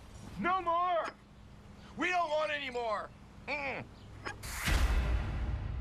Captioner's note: crying